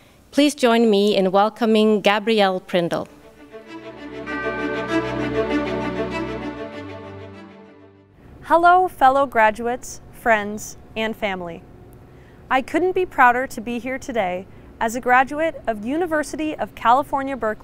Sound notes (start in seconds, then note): 3.2 bright orchestral music; 3.7 bell dings